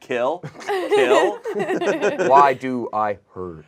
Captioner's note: group laughs